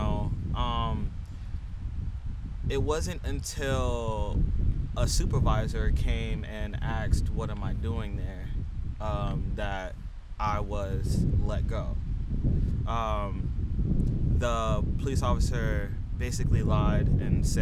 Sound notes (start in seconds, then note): 12.3 air whooshing